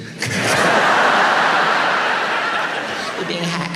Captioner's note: audience laughs